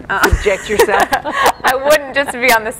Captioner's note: laughing